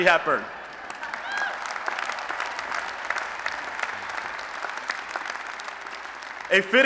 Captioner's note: applause